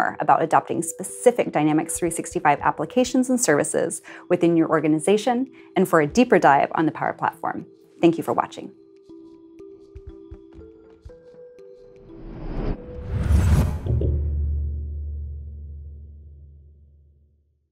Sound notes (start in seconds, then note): 9.6 calm music; 12.1 low whooshing; 13.8 low thudding